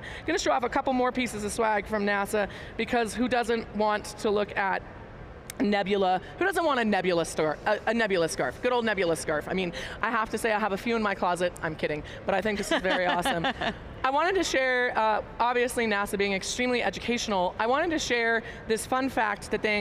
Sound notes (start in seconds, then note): 12.4 laughing